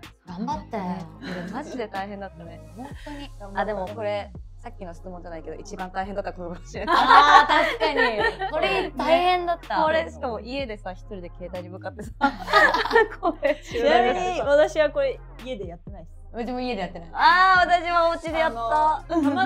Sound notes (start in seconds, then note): 6.8 laughs